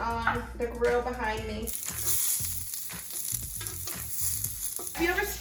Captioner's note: veggies sizzle